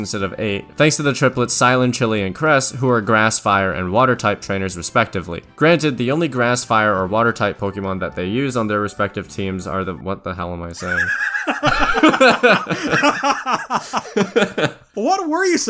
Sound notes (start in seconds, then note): 13.3 laughter